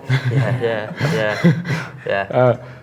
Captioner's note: laughs